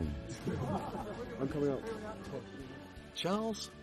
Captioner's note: people laugh